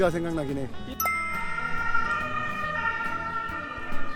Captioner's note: siren sound